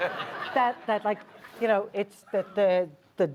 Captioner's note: laughs